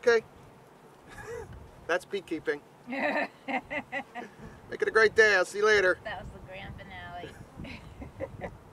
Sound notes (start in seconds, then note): 2.9 woman laughs; 7.6 woman chuckles